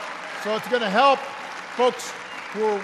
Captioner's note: applause